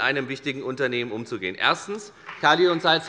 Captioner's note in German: Beifall bei der FDP